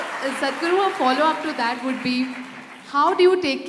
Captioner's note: applause